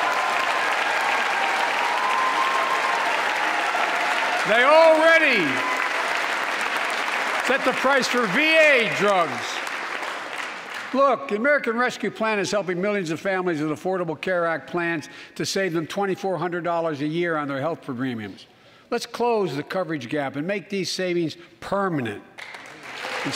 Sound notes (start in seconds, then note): 6.6 applause